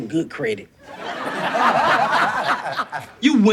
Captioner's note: audience laughs